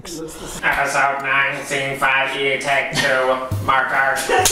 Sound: robot_voice

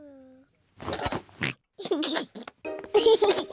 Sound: oinks and giggles

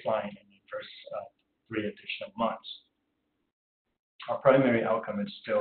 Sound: audio drop

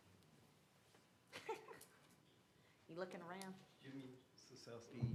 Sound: laughter

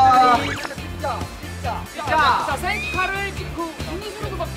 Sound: excited

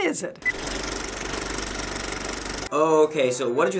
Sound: movie reel clicks

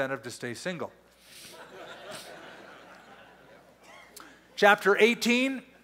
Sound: laughter

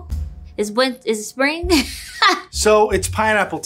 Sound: laughs

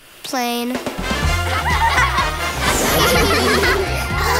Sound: laughing

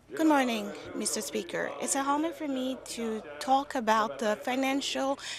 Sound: speaking French

